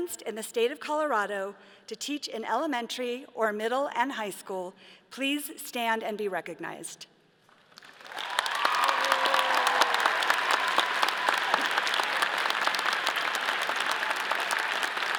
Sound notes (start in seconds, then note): 7.6 all applauding; 7.8 all cheering